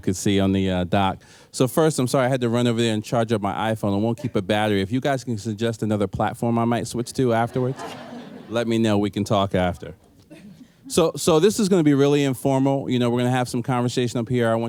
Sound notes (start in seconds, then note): 7.4 laughter